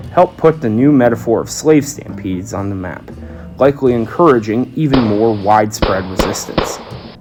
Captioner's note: gunshot noises